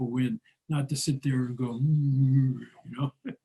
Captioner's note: grumbling noise